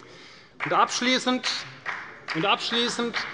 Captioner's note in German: Beifall bei der CDU und dem BÜNDNIS 90/DIE GRÜNEN